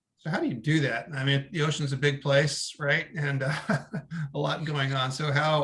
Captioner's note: laugh